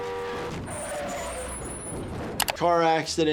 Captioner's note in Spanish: sonido de bocina; chirrido de neumáticos